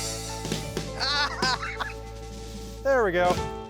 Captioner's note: laughter